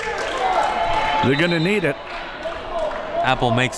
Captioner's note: whistle